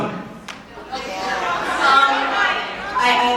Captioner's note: various crowd reactions and dialogue